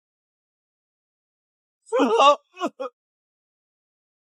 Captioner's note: screams